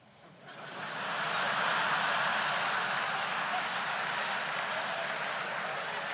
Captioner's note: audience laughs loudly and applauds